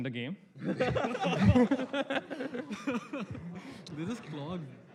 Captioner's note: laughter